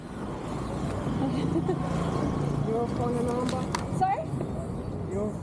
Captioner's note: laughing